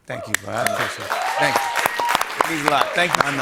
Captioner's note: cheers and applause